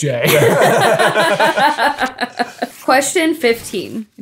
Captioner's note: everyone laughing; paper crinkling